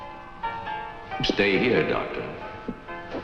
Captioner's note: echoing